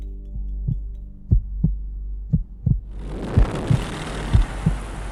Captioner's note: heartbeat pumps